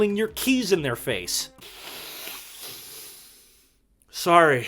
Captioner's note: deep, deep sigh